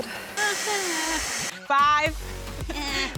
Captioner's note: hairdryer running